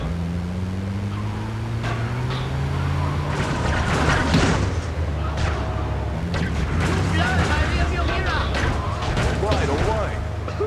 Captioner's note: engine roaring